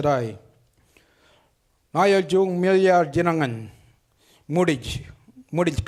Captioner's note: speaks foreign language